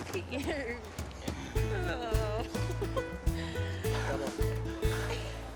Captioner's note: laughs